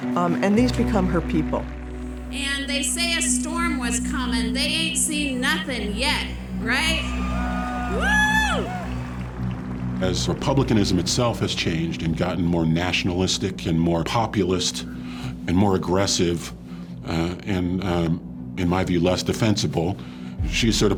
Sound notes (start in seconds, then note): 6.5 crowd cheers and applauds